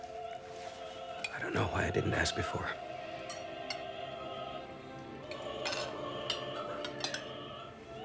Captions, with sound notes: I don't know why I didn't ask before. [clanging of silverware]